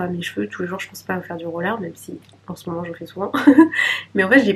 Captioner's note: laughs